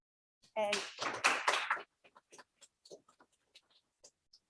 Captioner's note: crowd clapping